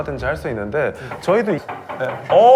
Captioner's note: knock knock